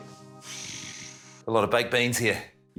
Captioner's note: snorts softly